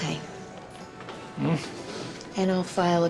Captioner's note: scoffs